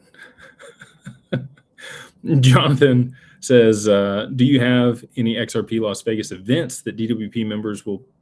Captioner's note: laughter